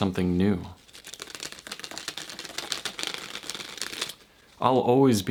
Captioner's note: cards slowly cascading